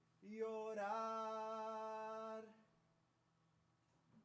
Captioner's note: none